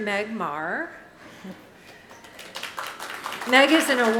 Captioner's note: audience clapping